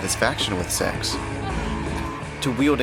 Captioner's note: moans